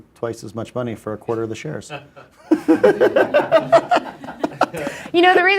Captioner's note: laughs